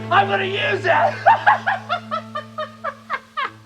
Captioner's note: laughing